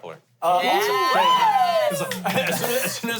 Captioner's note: everyone cheers